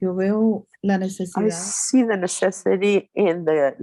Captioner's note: speaking Spanish